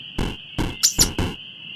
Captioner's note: squeak!